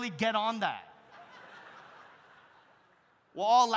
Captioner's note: audience laughs